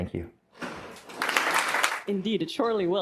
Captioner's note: applause